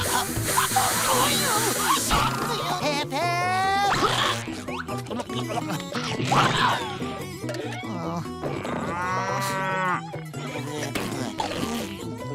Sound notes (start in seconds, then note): 7.8 whipers; 8.4 mooing